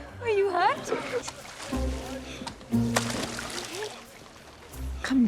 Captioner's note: splashing